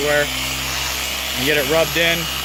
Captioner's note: buffer loudly whirring